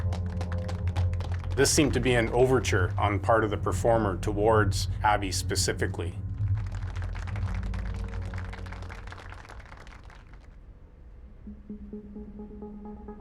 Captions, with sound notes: This seemed to be an overture on the part of the performer towards Abby specifically. (audience clapping)